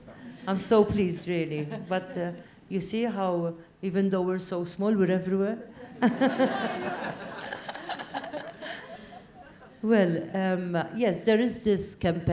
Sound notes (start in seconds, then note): 5.9 laugh